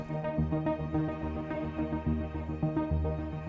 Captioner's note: dramatic music; body thudding